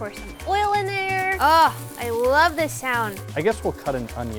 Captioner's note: oil crackling